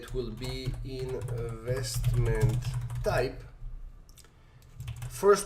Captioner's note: keyboard typing